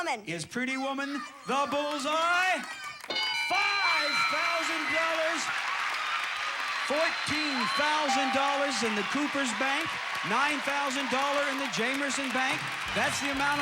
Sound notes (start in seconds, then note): 5.9 audience applauding